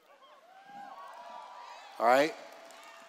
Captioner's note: cheers